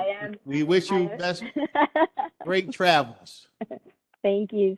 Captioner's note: laughter